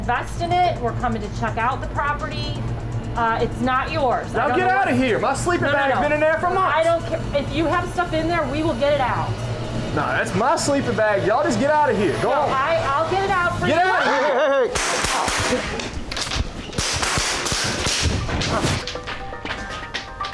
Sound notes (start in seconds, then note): 13.7 screaming; 14.7 gun shots